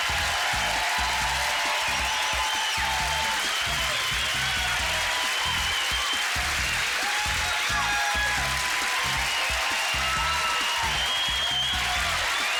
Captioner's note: cheers and applause